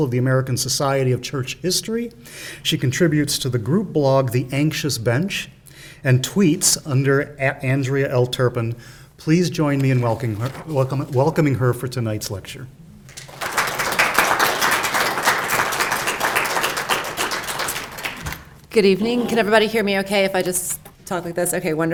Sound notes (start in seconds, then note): 13.0 clapping